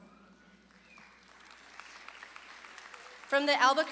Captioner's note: audience claps and cheers